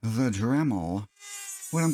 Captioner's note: Dremel sounds